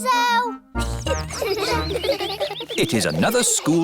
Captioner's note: children giggling